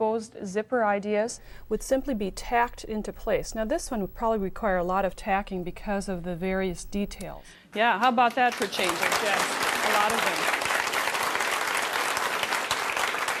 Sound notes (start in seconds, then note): 8.2 applause